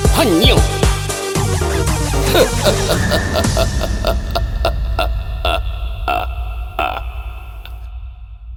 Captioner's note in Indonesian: Tertawa